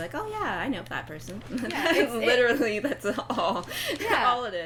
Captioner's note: laughing